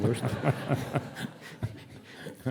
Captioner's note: audience laughing